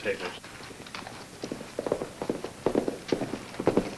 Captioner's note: hooves clomp